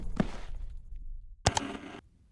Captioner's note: static; ka-chunk